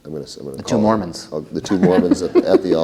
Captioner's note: laughter